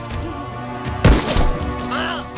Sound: gunshot

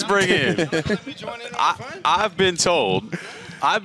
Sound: indistinct chatter

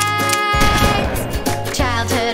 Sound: gunshot

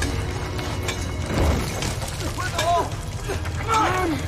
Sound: stone cutting continues

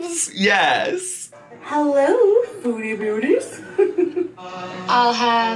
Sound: laughing

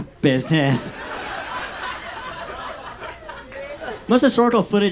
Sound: audience laughs

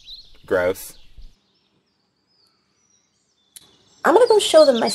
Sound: birds

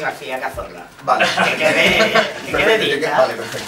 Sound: laughs

